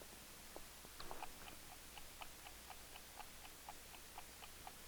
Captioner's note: clock ticking